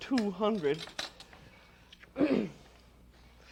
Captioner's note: clears throat